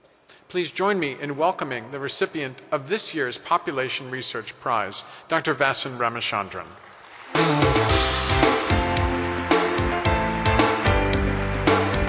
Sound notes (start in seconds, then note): 6.7 audience applause; 9.0 celebratory music